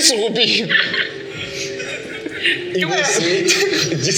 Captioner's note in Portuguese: Risadas; Risos